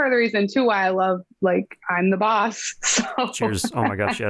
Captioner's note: laughing